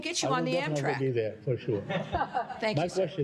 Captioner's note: laughter